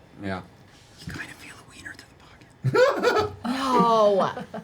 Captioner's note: whispers